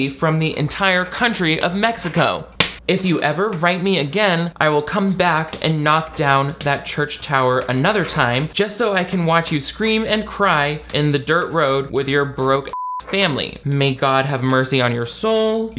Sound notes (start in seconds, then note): 12.7 beep